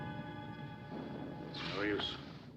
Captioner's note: thunder